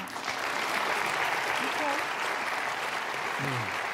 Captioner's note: applause